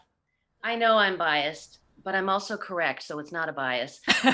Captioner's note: laughs